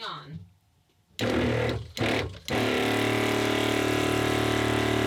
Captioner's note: loud whirring